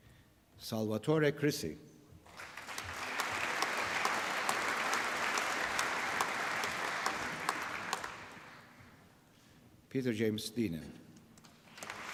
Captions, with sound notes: Salvatore Crisci. (APPLAUSE) Peter James Denheen.